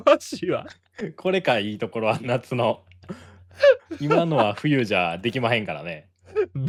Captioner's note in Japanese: 笑い